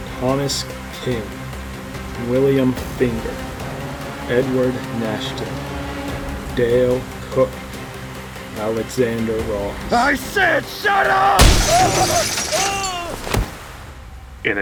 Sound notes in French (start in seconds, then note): 11.0 Le verre se brise alors que l'Homme-Mystère crie de douleur; 11.4 bam !